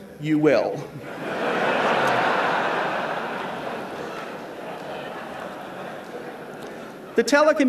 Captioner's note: laughter